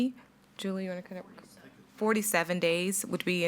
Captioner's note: faintly speaking